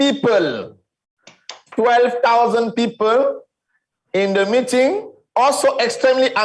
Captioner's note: hands Clapping